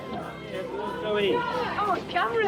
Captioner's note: crowd